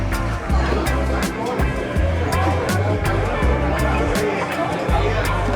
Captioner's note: people chattering